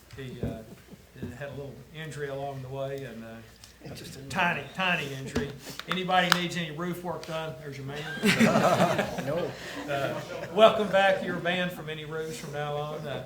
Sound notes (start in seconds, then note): 7.9 attendees laugh